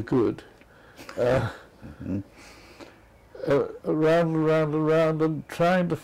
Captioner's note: laugh